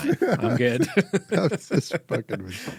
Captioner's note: laughing